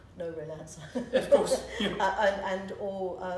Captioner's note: laughing